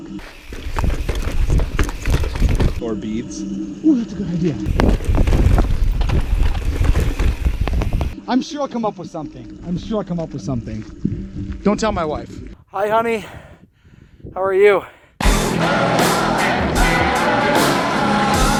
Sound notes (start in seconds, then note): 5.0 rustling; 15.3 upbeat music